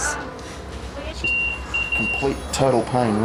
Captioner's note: machine beeps